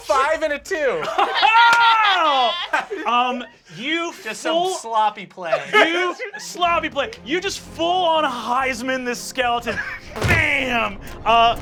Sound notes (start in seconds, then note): 1.0 laughter